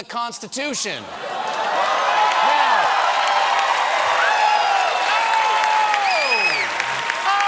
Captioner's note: cheers and applause